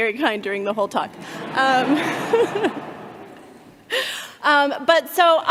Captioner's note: all laughing